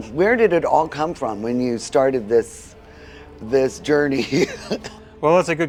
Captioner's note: laughs